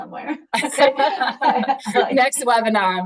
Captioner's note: both laughing